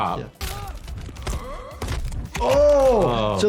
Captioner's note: Kenshi grunts; bones snap